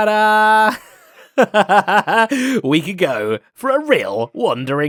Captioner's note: laughs